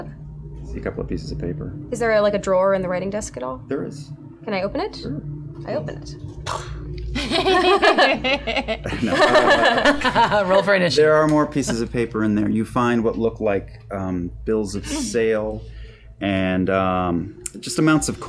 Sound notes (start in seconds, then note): 8.0 explosion